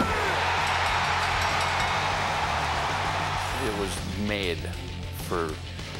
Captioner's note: applause